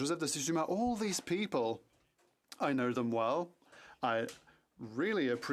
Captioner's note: speaking French